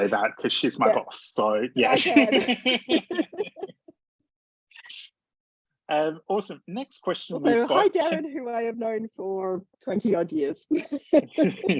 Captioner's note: laughs; laughs